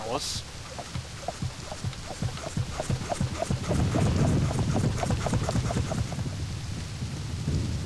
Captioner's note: pumping noises